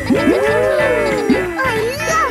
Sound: kids gasping and laughing

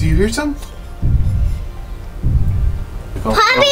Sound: booming footsteps

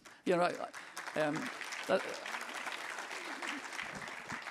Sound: audience clapping

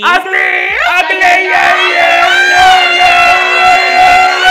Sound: screams

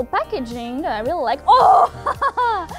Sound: gremlin scream

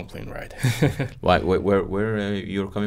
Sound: chuckling

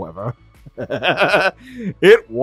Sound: maniacal Laughing

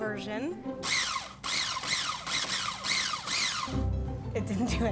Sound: food processor whirring

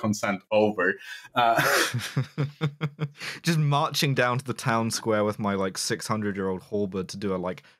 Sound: chuckles

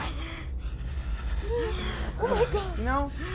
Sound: Cross gasps for breath

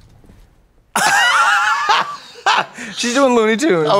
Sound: blonde Women cluck

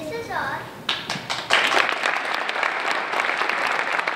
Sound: applause

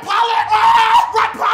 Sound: screaming

